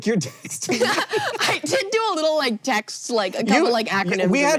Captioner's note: BOTH laugh; wheeze-laughing